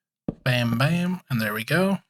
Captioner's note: none